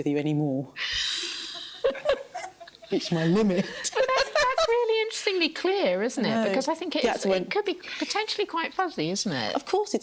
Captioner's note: laughter